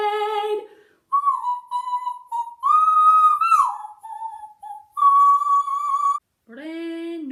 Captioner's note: whistles